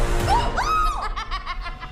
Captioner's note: Glinda screaming; Elphaba laughing